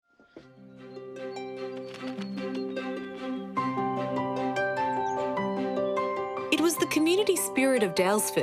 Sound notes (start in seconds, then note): 0.1 bird flaps wings